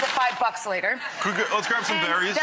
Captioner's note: audience laughing